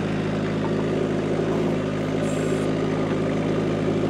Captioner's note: engine revving